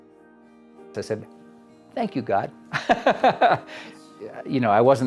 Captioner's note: laughs